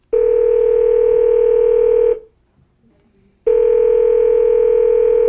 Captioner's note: phone ringing